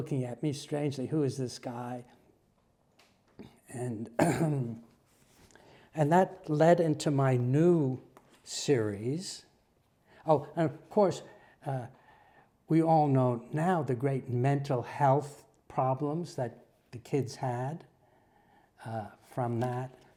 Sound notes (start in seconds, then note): 4.1 cough